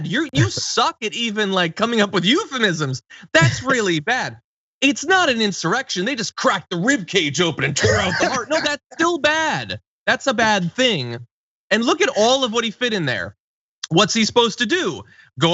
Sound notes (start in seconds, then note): 3.3 laugh; 7.5 laugh